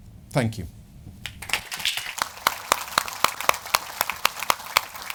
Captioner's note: applause